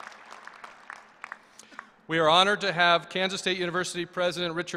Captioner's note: applause